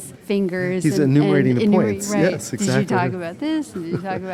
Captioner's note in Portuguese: risos